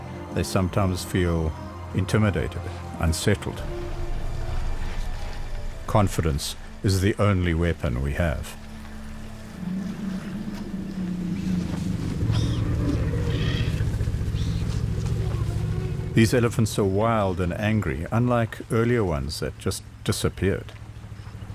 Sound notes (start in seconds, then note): 8.6 animals calling; 9.5 rumbling